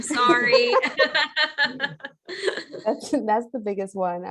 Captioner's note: laughing